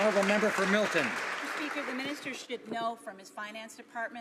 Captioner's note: some Applause